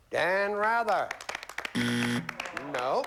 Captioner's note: buzzer